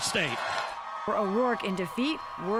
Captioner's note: cheering and applause